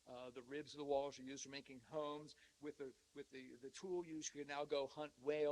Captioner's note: none